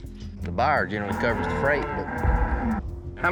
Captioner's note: cows mooing